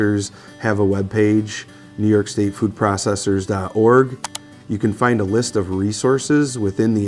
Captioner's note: mouse click